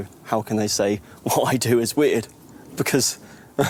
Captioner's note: laughs; chuckles